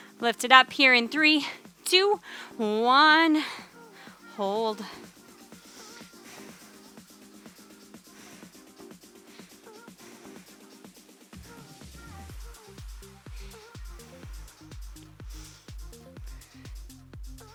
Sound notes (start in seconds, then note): 5.6 panting; 5.8 upbeat music